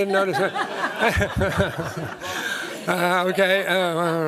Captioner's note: laughter